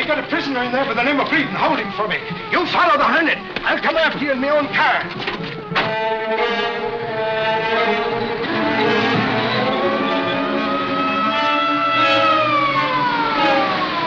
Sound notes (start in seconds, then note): 6.2 dramatic music; 9.6 siren wailing